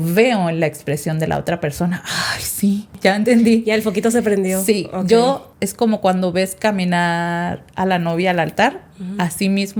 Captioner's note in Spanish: suspiro